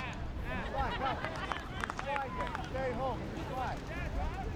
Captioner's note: group laughs